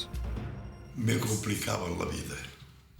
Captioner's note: non-english speech